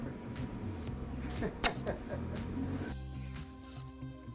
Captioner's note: laughing; making kissing sounds; upbeat music playing